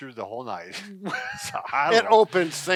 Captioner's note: laughs